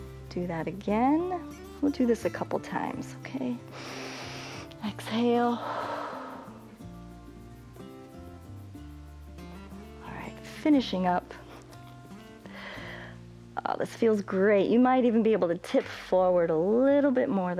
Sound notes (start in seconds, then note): 5.4 exhales; 5.5 inhales